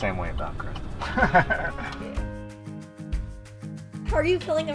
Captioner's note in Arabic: يضحك